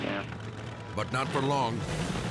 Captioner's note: Jeep revving; dramatic music